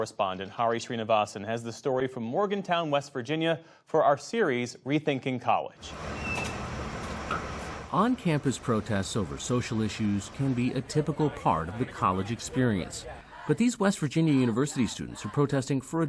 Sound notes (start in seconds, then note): 5.9 distant activity buzzing; 12.7 people chattering